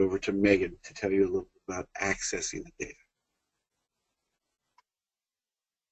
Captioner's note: long pause in sound